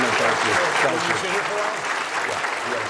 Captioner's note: applause